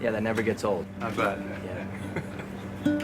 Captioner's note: chuckles